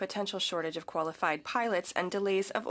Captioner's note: speaking French